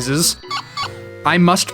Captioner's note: electronic tiny puppy noises